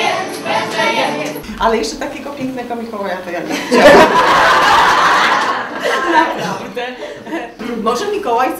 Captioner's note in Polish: "Wybuch śmiechu" widowni